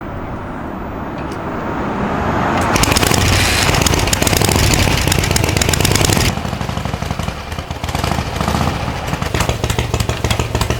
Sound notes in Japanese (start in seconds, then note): 0.0 エンジン音